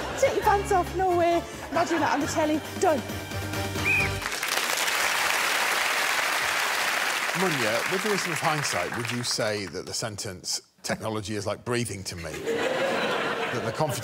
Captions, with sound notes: "Take your pants off." No way. Imagine that on the telly. Done. [whistles] [applause] Munya, with the reason of hindsight, would you say that the sentence "technology is like breathing to me,"